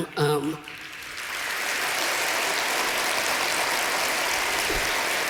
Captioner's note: applause